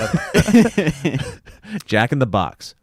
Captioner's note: everyone chuckles